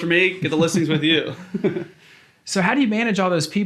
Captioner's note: laughs